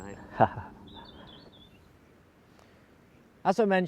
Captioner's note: laughing